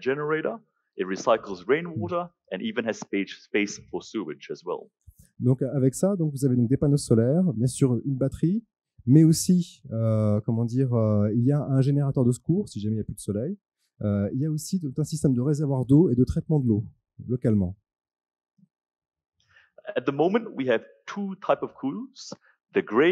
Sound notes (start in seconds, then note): 5.9 translating into french